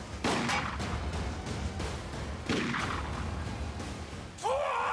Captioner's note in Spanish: continúa la balacera